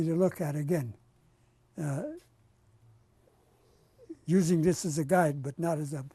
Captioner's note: pauses for 3 seconds